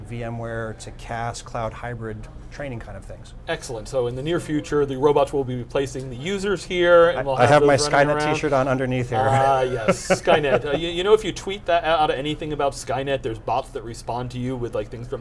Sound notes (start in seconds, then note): 9.2 laughing